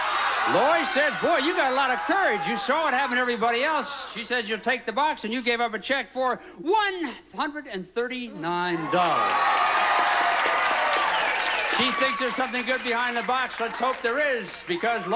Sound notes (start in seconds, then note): 10.8 audience applauding